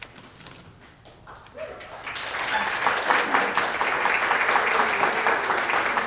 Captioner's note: applause